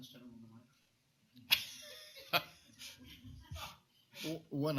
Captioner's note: laughs